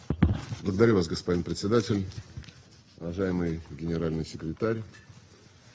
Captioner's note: Foreign Minister Lavrov speaks foreign language